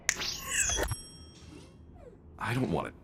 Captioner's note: bell dings